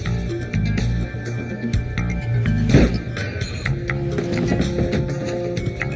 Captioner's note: suspenseful ambient music; gunshot fires